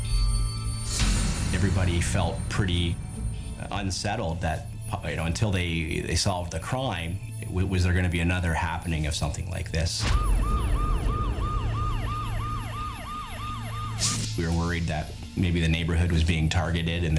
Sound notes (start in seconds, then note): 0.1 tense music; 10.0 siren wailing; 10.0 tense music